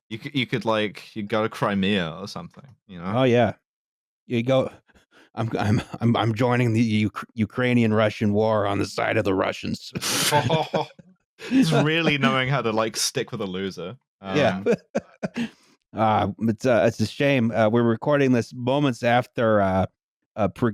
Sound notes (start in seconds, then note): 10.0 laughter; 14.3 chuckles